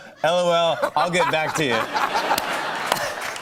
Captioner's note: laughter and applause